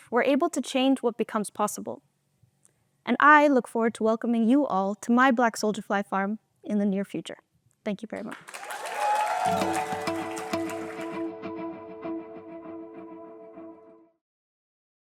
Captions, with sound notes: we're able to change what becomes possible. And I look forward to welcoming you all to my black soldier fly farm in the near future. Thank you very much. (applause and cheering) (upbeat music playing)